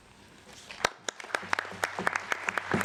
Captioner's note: applause